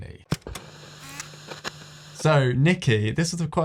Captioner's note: TV screen hissing